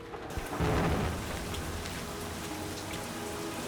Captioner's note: thunder rumbling; rain falling; melancholic music